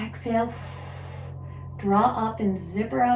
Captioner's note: exhales